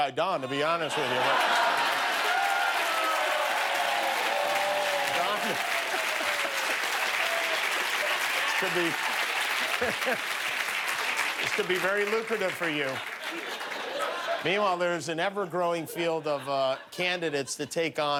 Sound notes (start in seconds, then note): 3.6 laughter; 4.5 cheers and applause